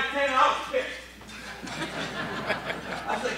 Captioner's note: crowd laughing